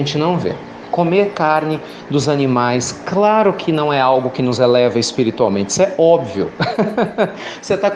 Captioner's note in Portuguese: Risos